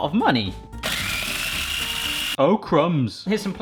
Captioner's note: blending whirring